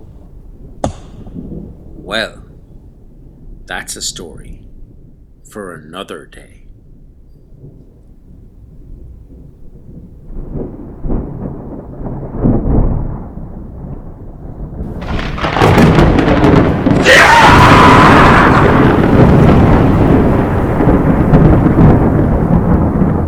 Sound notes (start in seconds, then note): 0.0 axe chopping Tree; 9.8 thunder and Lightning; 16.7 EVIL SCREAM within the Thunder